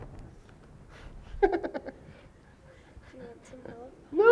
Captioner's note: laughing